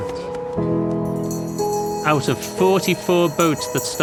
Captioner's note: bell ringing